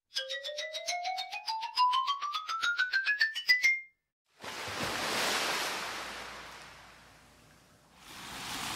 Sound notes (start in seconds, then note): 0.2 ascending Xylophone Scale; 4.4 waves Crashing